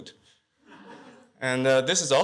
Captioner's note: laughter